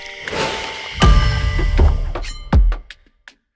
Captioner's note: paint brush whooshing; hammer thuds; blade swooshing